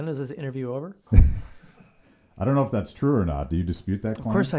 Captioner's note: laughs